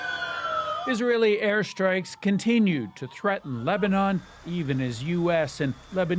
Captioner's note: sirens